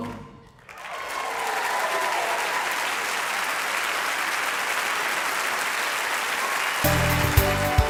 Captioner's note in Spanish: aplauso